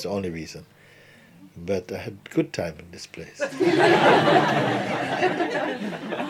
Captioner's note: laughter